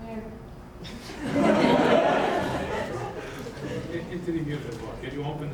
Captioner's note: audience laughing